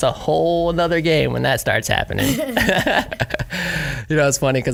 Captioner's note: laugh